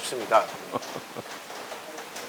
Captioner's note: laugh